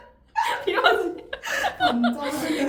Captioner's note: mimicking